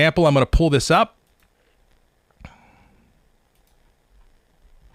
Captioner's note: mouse clicking